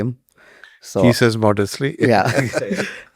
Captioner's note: chuckles